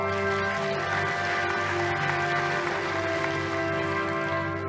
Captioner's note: audience applauding